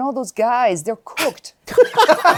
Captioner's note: laughter